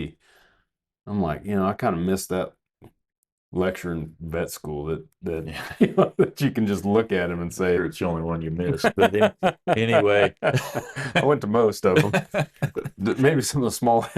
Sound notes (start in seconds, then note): 5.5 laughing; 8.6 laughing